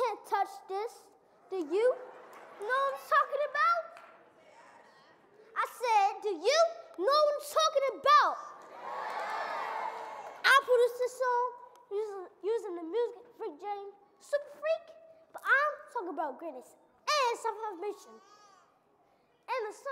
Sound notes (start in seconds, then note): 8.6 audience cheering